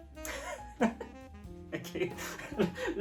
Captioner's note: laughing